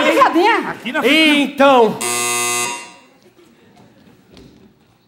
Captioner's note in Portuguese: campainha